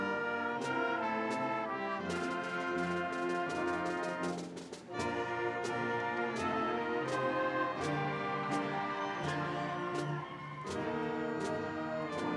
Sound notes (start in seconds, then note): 7.3 audience cheering